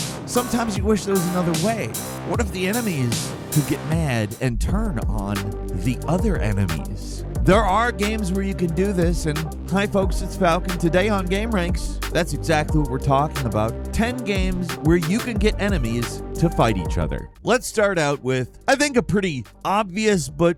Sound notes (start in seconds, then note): none